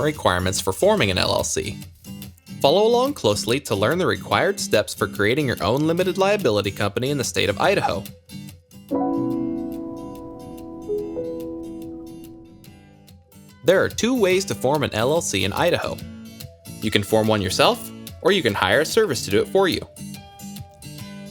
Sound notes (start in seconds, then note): 8.9 logo blinging